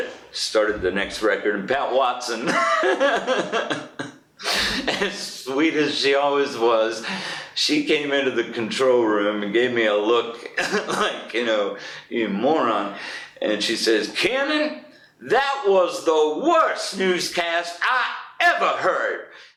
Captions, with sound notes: Started the next record Pat Watson [laughs] and sweet as she always was. She came into the control room and gave me a look like, you know, you moron. And she says, “Kiernan that was the WORST newscast I EVER HEARD.”